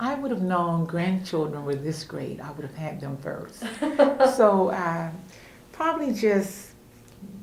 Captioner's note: laughter